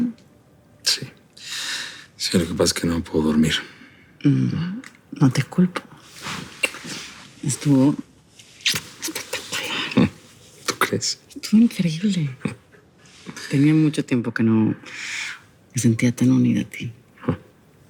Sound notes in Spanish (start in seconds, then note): none